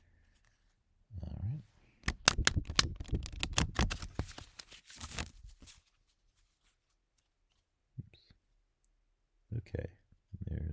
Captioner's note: shuffling